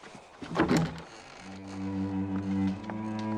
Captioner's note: door opens